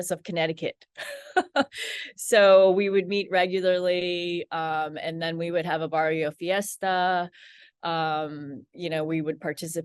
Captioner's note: laughs